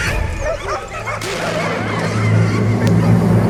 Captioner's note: gunshot